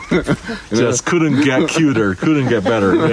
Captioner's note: park ranger laughing